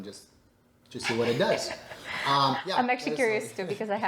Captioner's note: chuckling